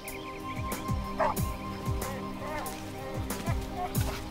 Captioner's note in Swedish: hund skäller